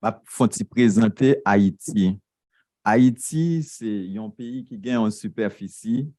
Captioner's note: speaking a foreign language